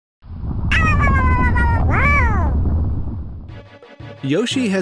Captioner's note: Yoshi noises